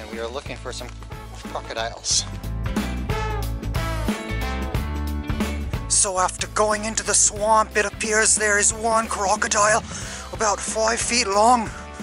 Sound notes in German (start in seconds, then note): 5.4 Jordanien mit australischem Akzent